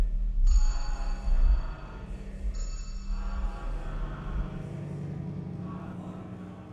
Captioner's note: eerie music continues; people chanting faintly